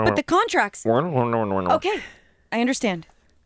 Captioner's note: grumbles